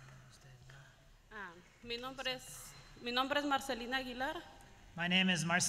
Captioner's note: speaking in another language